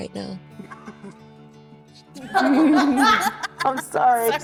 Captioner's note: laughing